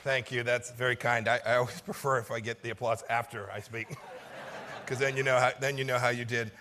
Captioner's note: laughter